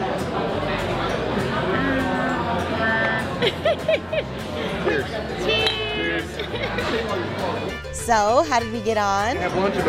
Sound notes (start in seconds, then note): 3.0 giggles